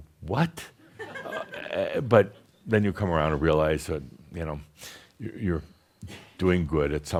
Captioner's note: a few giggles